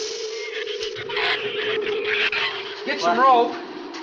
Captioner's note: shrews chatter